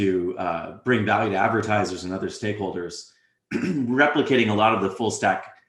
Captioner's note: cough